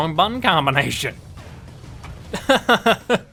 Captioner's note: laughs